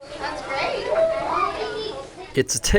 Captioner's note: classroom chatter